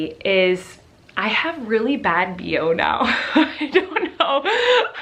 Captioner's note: chuckles